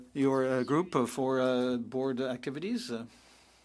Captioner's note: speaking French